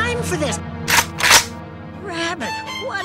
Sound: shotgun sounds

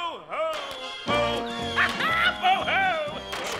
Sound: laughing

